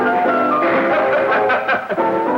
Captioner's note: laughing